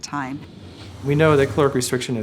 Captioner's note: whooshing